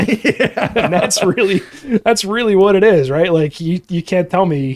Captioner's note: laughing